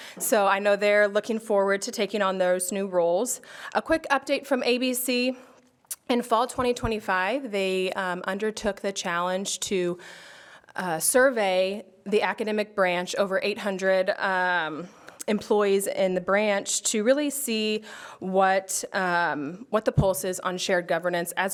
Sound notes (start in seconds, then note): none